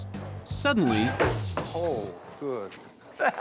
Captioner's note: screeching